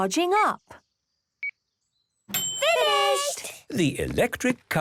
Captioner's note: dings